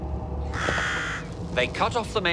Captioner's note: bird squawks